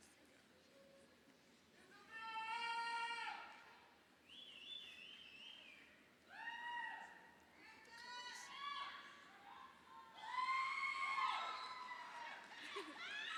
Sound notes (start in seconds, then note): 6.8 woman shouts; 10.1 crowd cheers